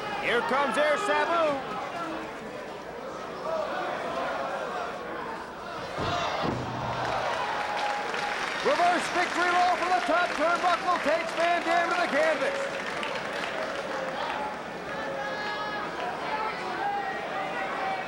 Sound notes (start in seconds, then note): 6.0 spectators exclaiming; 7.2 spectators cheering and applauding